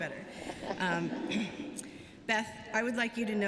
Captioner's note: laughter